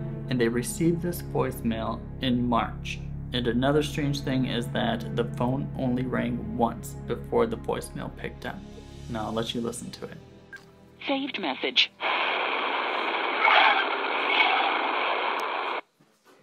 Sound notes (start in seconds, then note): 11.0 static